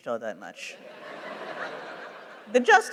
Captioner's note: laughter